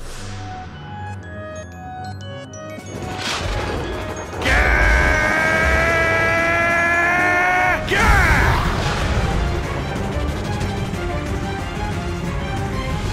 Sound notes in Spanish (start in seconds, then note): 4.4 Gritos; 7.5 Grita